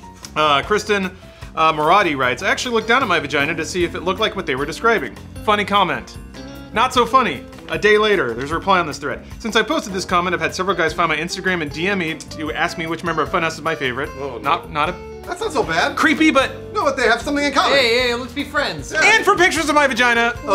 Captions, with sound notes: Kristen Maratti writes actually looked down at my vagina to see if it looked like what they were describing, funny comment Not so funny a day later. Whose reply on this threat since I posted this comment I've had several guys found my instagram and dm me. To ask me which member of funhaus is my favorite ? not not a *interrupted stutter* Thats not so bad Creepy but they have something in common And for pictures of my vagina!